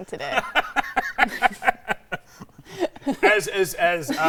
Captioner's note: laughing